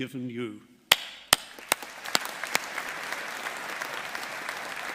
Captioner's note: all applauding